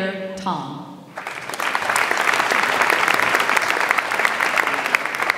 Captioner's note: audience applauds